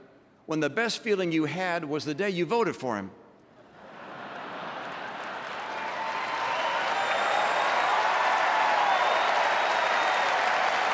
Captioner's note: applause